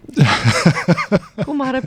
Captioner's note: laughter